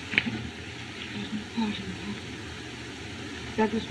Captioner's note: muttering